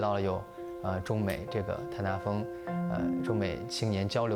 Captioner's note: speaking chinese